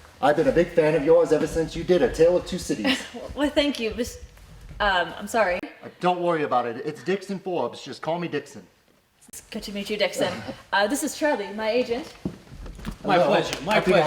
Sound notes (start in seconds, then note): 2.8 chuckles